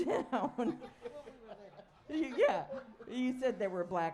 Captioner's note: laughter